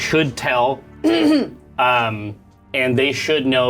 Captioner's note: clears throat